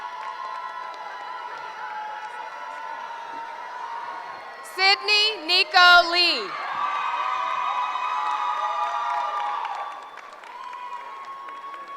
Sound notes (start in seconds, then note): 6.9 cheering